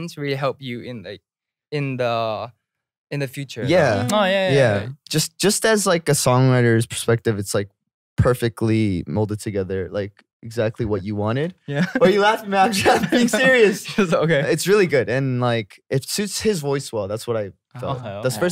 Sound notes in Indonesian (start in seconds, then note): 11.7 tertawa